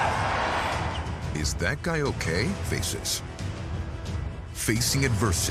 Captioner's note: screams